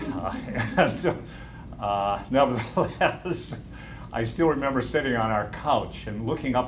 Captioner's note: laughter